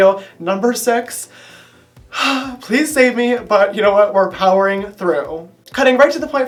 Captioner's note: sigh